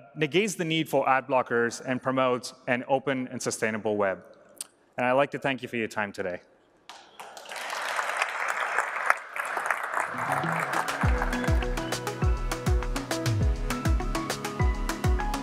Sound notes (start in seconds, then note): 6.9 applause